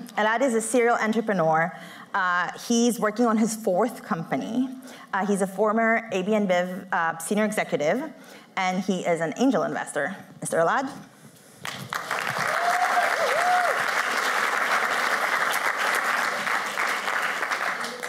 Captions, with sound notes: Elad is a serial entrepreneur. He's working on his fourth company. He's a former AB InBiv senior executive. And he is an angel investor. Mr. Elad. [APPLAUSE]